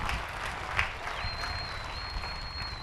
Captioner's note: applause